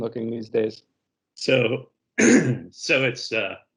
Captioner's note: clears throat